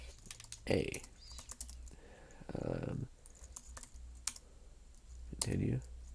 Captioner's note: typing